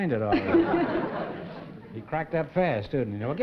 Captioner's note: laughter